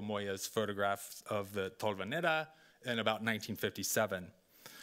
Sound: speaking Spanish

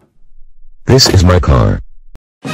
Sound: door opens; door closes

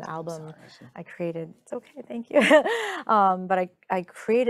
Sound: chuckling lightly

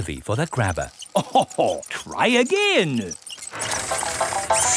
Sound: chuckles

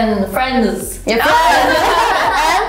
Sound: laughter

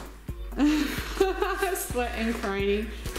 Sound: mother laughs

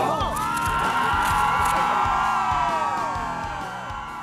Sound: crowd cheering

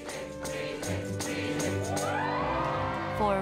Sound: cheering

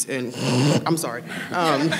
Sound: snoring

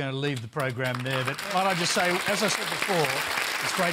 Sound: applause

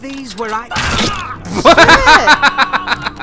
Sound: yells; thud; laughs

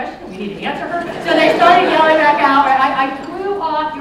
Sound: laughter

